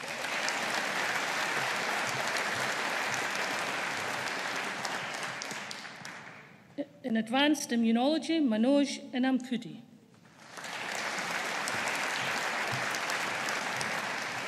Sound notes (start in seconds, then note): 0.0 audience applauding; 10.2 audience applauding